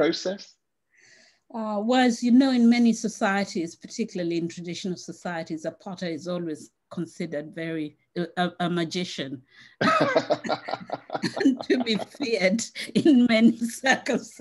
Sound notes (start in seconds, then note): 9.8 laughs